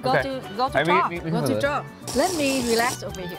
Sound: drink slurping

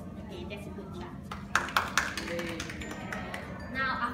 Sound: clapping hands

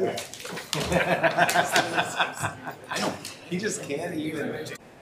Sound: members laughing

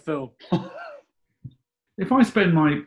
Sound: laughs

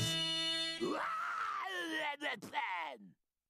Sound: yelling

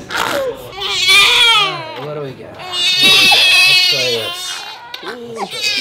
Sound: baby pooping sound; loud crying continues

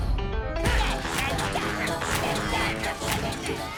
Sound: upbeat jazz playing; both grunting

